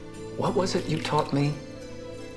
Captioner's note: speaking in foreign language